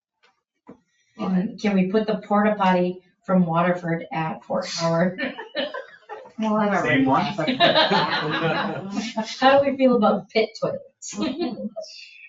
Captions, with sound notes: Can we put the porta potty from Waterford at Fort Howard? (people chuckle) The same one? (people laugh) How do we feel about pit toilets?